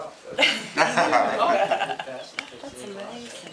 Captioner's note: laughter